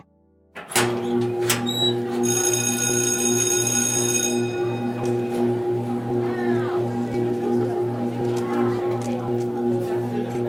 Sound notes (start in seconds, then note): 0.5 metal clanking; 2.5 bell ringing; 6.5 people chattering